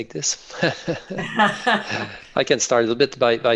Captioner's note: laughter